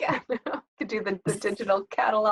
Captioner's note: laughter